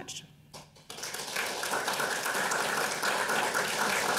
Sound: audience applauding

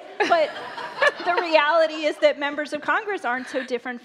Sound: laughter

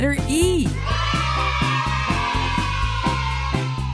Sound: kids cheering

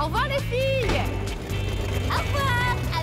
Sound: engine backfiring

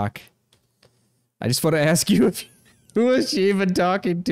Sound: laughs

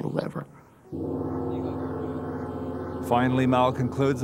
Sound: gong crashes

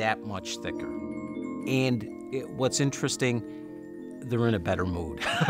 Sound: chuckles

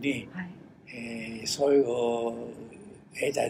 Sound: foreign language

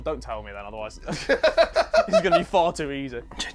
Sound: laughs

